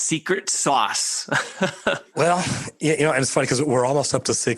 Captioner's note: laughing